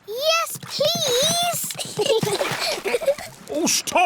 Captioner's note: giggles